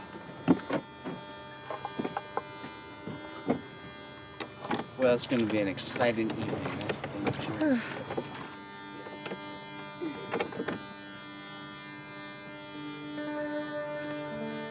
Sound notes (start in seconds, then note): 0.2 somber music; 7.5 sighs; 11.1 somber music